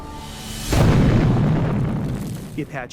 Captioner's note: explosion